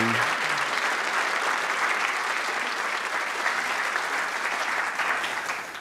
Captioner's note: applause